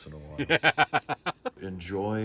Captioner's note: laughing